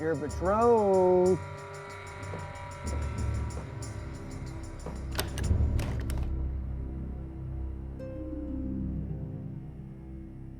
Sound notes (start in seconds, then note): 2.6 tense music; 5.0 door opens